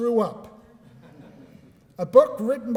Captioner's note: laughter